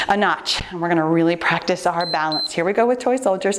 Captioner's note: timer beeps